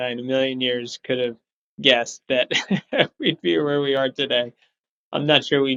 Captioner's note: laughs